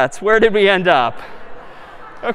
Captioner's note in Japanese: 笑い